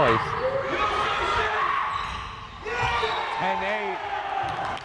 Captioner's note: crowd cheering